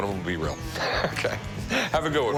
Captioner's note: laughs